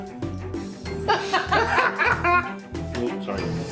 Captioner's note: cackling